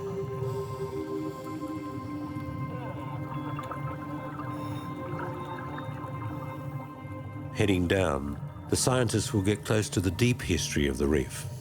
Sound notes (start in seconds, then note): 0.1 inspiring music; 2.8 radio signaling